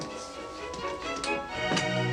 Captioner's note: doorbell rings